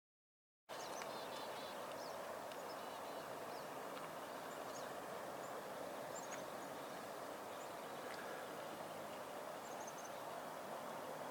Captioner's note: birds singing and #nature sounds